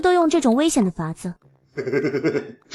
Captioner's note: mischievous giggling